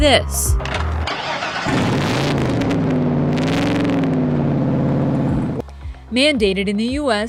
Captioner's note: engine roaring; ignition starts